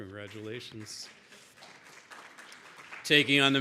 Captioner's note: audience applauds